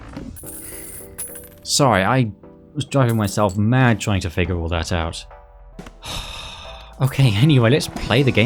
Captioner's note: sigh